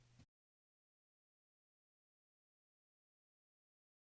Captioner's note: silence